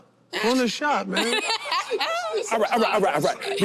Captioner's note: laughing